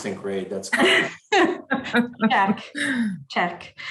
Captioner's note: laughs